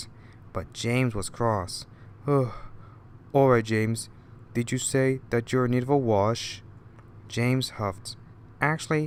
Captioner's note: gasp